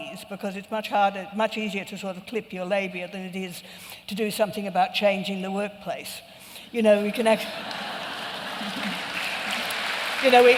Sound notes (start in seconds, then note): 7.4 laughter and applause